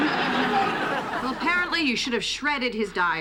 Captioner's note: laughter